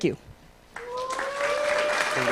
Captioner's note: applause